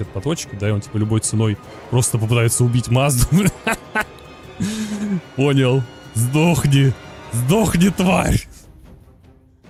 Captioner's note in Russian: смех